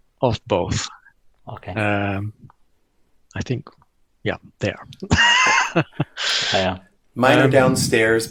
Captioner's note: laughter